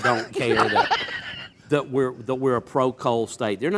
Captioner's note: laughing